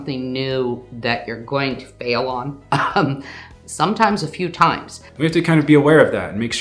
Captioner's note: chuckles